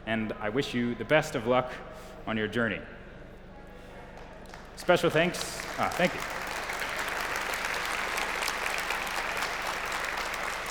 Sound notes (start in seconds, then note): 6.2 applause